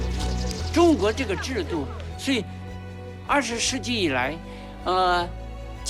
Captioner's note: hablan un idioma extranjero